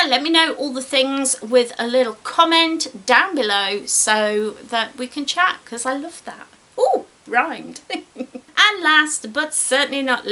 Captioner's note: giggles